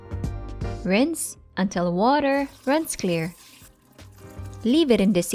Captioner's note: water running